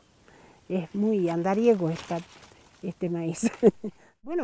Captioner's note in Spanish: risas